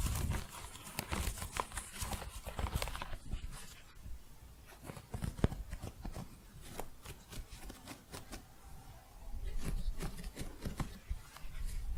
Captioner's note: crunchy scratching, thick scratching